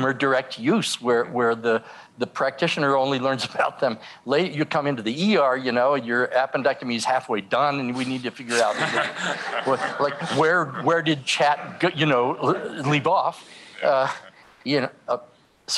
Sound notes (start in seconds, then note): 8.6 laughter